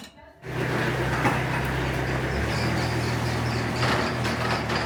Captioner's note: tractor rumbling